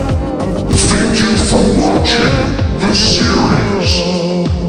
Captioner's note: fireworks; electric voice over